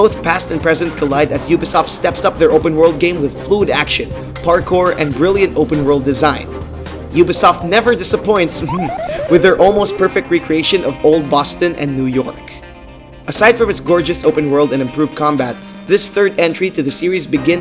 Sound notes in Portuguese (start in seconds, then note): 8.5 ha-ha